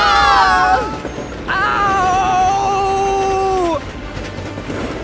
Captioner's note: screams in pain